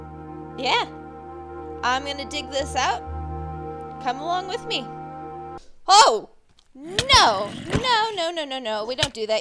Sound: yells

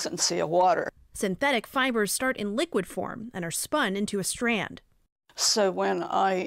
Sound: voice-over

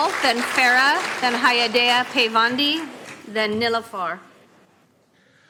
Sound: applauding

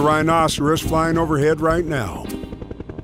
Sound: helicopter chuffing

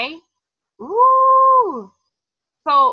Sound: howling

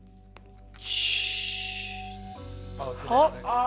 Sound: hissing

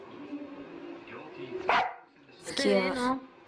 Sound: dog barks

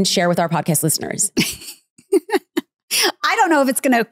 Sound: laughs

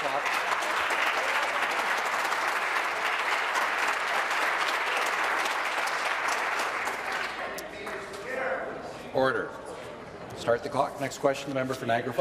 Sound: applause

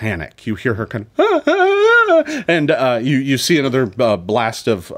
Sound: screaming

